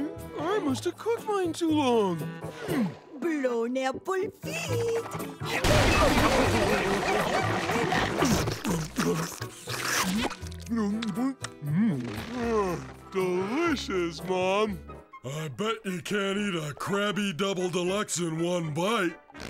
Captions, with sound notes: I must've cooked mine too long. Blown apple feet! Mmh...! [sighs] Delicious, Mom. I bet you can't eat a Krabby Double Deluxe in one bite.